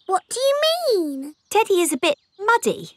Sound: in normal voice

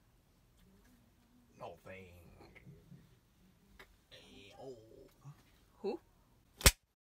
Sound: funny voice

